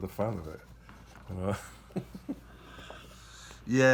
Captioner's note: laughs